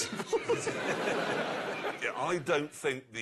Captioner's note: laughter